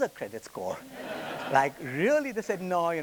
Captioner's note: attendees laughing